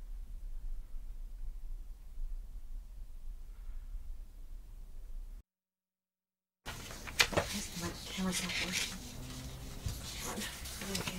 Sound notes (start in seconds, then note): 6.6 paper rustling